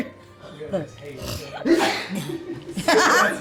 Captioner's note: laughs